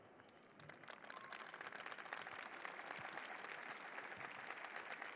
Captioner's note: applause